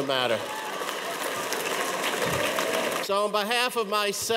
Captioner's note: audience applauds